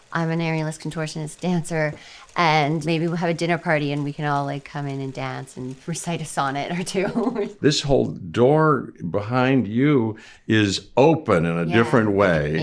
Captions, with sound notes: I'm an aerialist, contortionist dancer. And maybe we'll have a dinner party and we can all like come in and dance and recite a sonnet or two. [chuckles] - This whole door behind you is open in a different way.